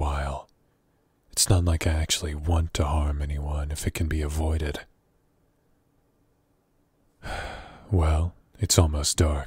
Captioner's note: sigh